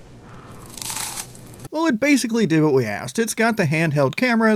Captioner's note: cereal crunching